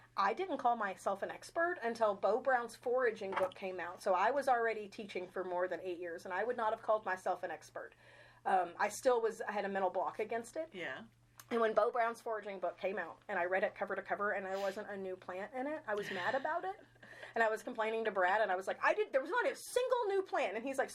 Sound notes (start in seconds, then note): 15.9 chuckling